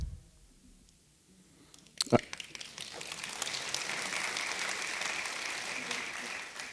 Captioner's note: applause